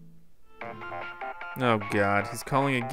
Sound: cartoony digital ringtone

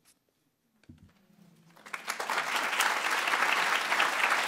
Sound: applause

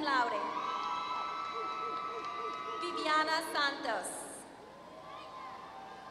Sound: applause

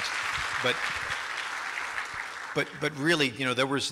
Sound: applause

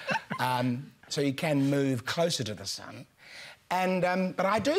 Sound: laughter

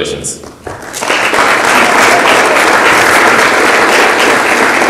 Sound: audience applauds

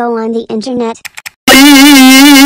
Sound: mouse click

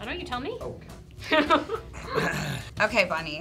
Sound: laughing

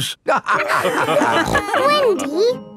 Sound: all laughing

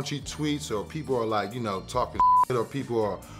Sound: beep

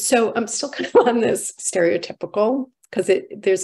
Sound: chuckles

